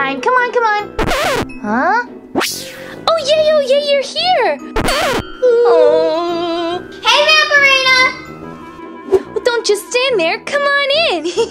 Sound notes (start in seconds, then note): 1.0 record scratching; 4.8 record scratching; 11.3 laughing